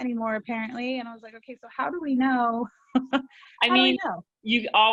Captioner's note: laughter